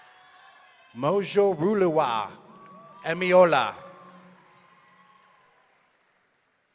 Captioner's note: audience cheering